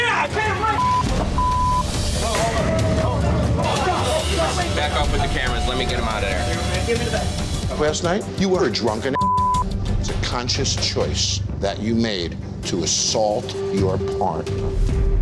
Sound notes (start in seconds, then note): 0.0 film crew clamoring; 1.3 beep; 9.1 beep